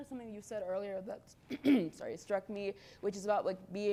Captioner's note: clears throat